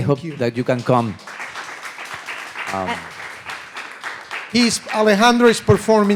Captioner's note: audience applauding